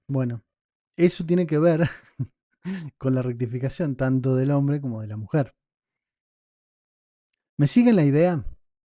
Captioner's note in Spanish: risas